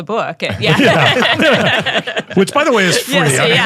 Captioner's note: all laughing